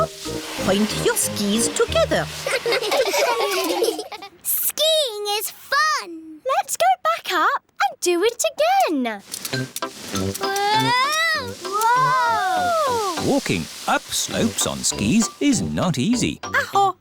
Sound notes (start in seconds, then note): 2.4 laughing